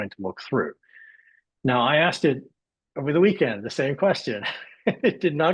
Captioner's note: laughs